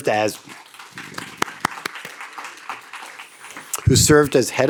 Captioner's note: audience applauds